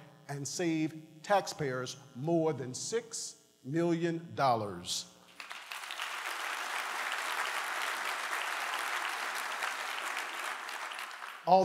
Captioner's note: applause